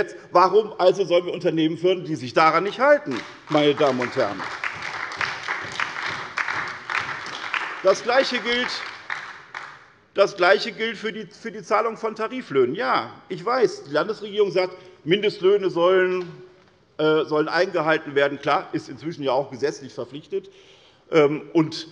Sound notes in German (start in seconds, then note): 2.6 Beifall bei der SPD, der LINKEN und der Abg. Öztürk